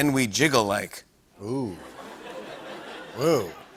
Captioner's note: laughter